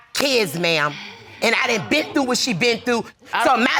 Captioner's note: audience exclaims